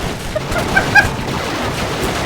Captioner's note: laughing I think